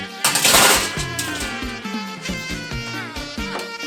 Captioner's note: tray rattles